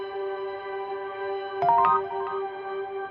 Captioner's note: soft music; text sound